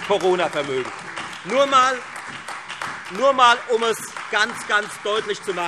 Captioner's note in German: Beifall Freie Demokraten, AfD und vereinzelt SPD